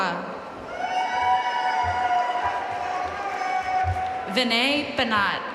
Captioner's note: audience cheering and applauding